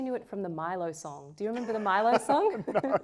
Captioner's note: laughs